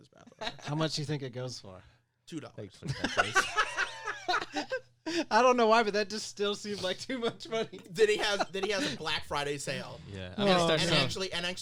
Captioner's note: lols